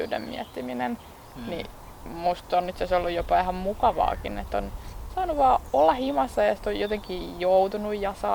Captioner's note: birds chirping